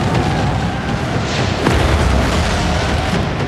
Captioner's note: tires screeching